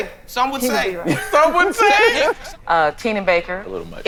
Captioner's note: laughs